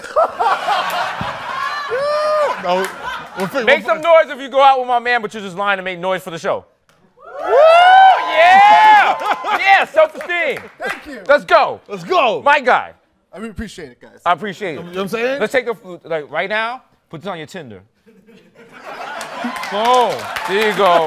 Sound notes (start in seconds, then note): 0.0 laughter; 7.2 cheering